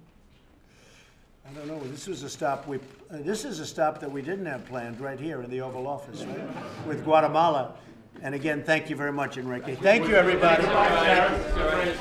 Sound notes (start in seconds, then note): 6.1 laughter